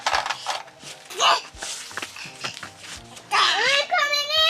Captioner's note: babbling